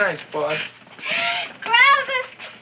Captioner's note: gasps